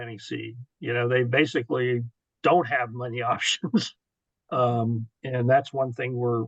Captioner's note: chuckles